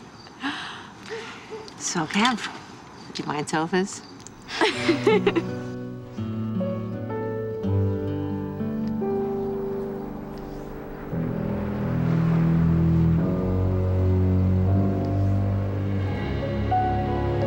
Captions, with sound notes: So, Kev... Do you mind sofas? (LAUGHING)